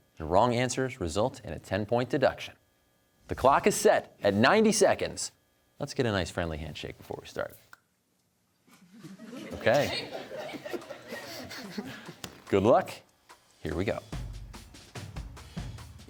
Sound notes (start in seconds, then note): 8.7 hands clap softly, laughter; 10.7 laughter